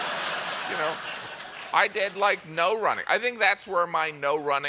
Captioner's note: laughter